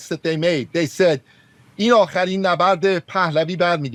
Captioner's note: speaking in foreign language